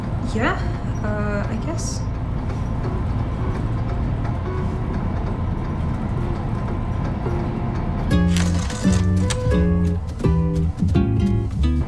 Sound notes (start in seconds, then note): none